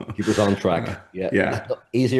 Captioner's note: laughs